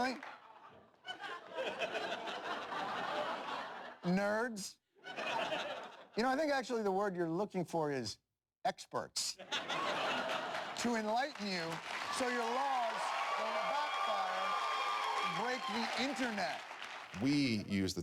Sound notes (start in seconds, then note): 2.0 laughter; 9.3 laughter; 14.1 audience laughter and applause